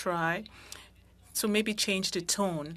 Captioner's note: speaking French